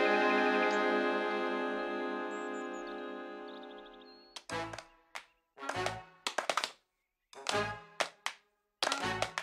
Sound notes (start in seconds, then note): 0.7 hooves tapping; 3.9 tapping continuing